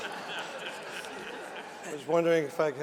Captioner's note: laughter